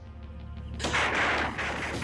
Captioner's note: crack